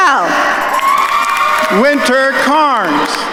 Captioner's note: attendees cheering and applauding